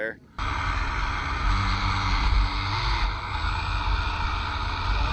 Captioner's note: engine revving